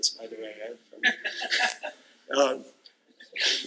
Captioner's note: laughter